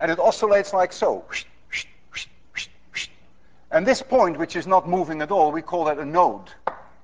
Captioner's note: makes swishing sounds